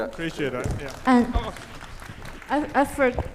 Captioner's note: applause